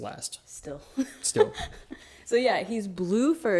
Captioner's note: laughs